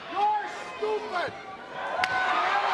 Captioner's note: applause